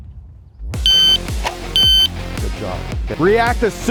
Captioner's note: beeping continues